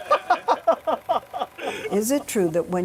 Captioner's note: laughing